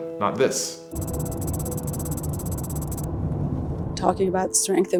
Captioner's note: keyboard tapping